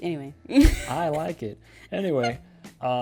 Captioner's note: laughs